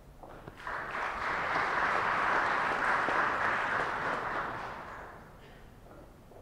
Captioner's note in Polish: oklaski